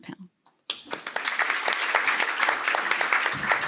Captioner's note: applause